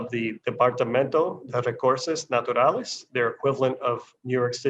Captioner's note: speaking foreign language